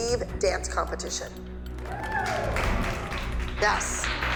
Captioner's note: cheering